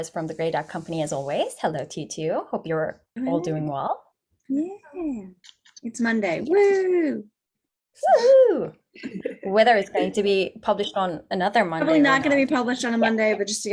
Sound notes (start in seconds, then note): 8.0 woohoo!